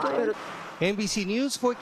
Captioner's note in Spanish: hablan inglés